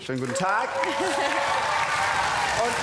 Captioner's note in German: Applaus